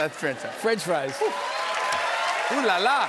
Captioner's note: cheers and applause